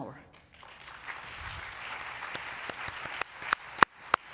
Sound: applause

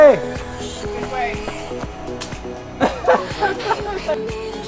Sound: laughs

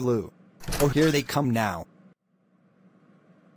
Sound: door Opens

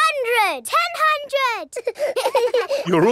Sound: children laughing

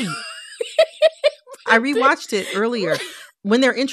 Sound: laughter

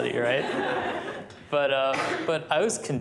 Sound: laughter

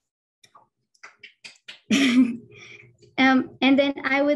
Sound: audience member clapping

